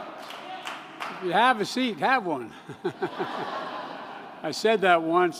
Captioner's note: laughter